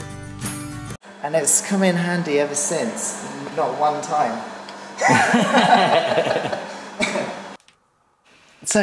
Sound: laughter

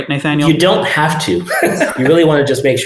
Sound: laughs

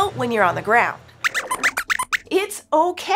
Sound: squeaks squeaks

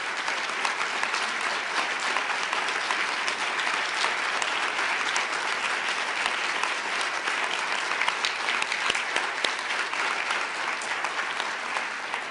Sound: applause

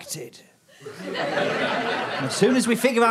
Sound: audience laughter

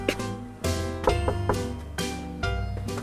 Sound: knock x3

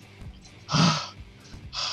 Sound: sigh of relief

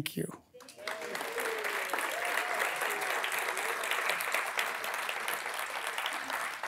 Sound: audience clapping

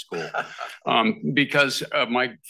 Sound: laughs

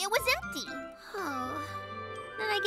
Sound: sighs sadly

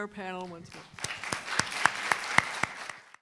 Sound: audience applauding

